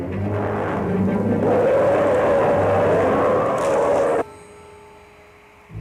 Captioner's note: roaring